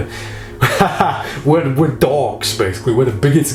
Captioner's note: laughing